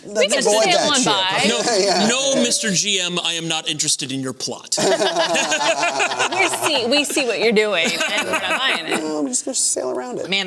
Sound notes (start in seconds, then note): 4.8 laughter